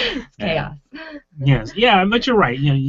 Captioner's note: laughing